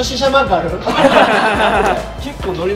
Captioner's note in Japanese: 笑い